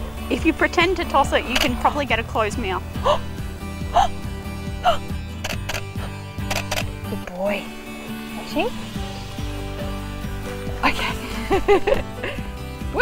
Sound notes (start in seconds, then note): 3.1 sharp intake of breath; 6.4 camera shuttering; 10.8 laughs